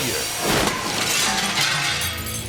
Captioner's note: glass shattering; graphics whooshing